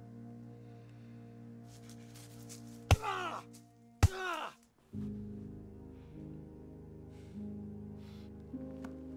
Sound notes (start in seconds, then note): 3.0 grunting; 3.1 thudding